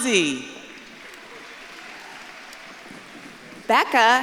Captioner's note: audience claps and cheers